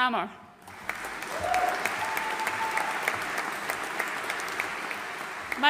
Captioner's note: audience cheering and applauding